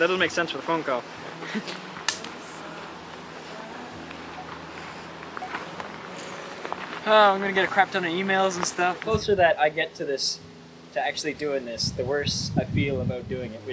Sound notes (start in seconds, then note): 1.4 laughing; 2.2 rock plinking